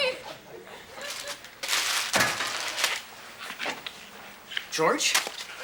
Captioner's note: paper crackling